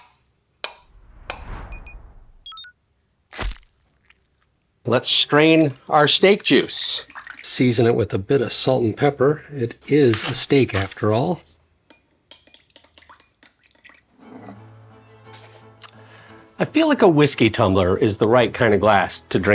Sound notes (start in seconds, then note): 1.0 graphics beeping; 12.3 liquid gurgling; 12.3 stirrer tapping